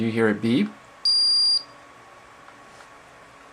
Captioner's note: beep